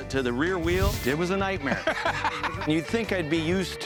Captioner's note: laughs